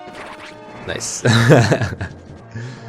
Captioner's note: laughs